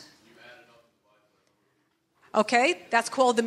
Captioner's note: speaking faintly